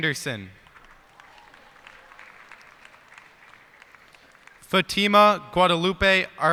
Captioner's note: cheers and applause